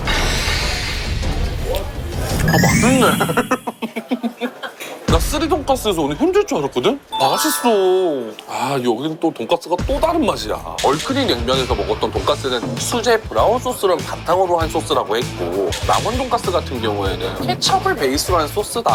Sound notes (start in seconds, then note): 3.6 hehehe